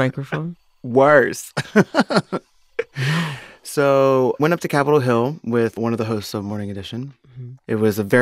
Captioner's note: laughter